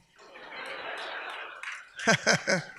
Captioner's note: audience laughs; laughs